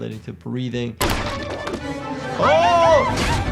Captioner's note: object thuds